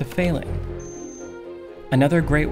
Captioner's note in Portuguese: Bips